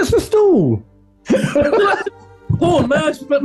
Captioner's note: laughing